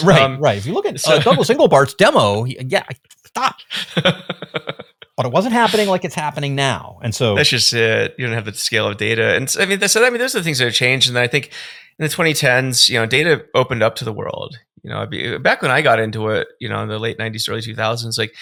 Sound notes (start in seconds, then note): 3.6 laughing